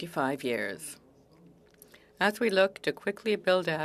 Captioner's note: speaking French